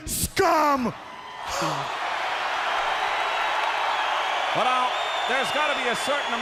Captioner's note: crowd cheering